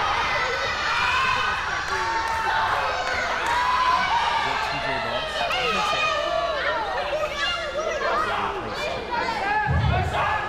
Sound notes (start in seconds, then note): 1.0 crowd yelling; 7.6 crowd yelling